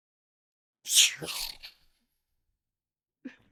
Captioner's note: laughter